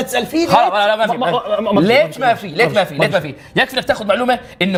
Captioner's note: repeatedly in gulf accent